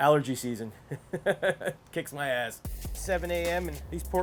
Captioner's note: laughs